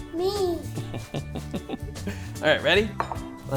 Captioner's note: dad chuckles